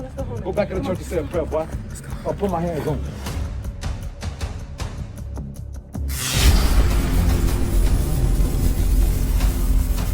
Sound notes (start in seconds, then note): 6.1 electricity buzzing